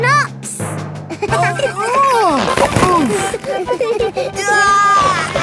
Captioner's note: giggling; grunting; giggling